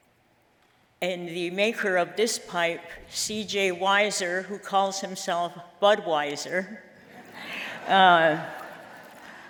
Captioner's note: laughter